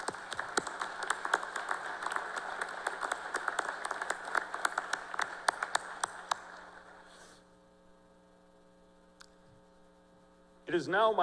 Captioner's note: cheers and applause